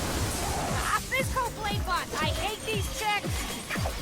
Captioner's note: characters fighting